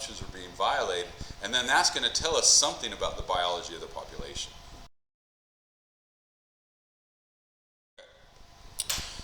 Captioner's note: mic cuts out